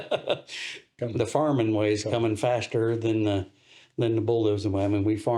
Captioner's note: laughs